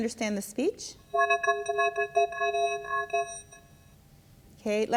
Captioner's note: voice speaks distorted, metallic speech